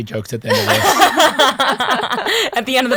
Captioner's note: laughing